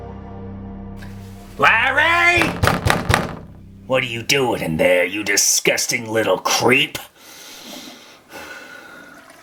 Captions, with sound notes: - Larry! (Pounding on door) What are you doing in there, you disgusting little creep.